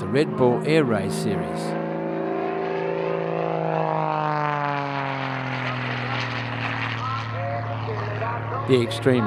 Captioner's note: aircraft sounds